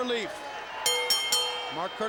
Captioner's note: bell rings